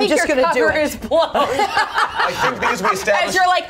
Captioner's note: everyone laughs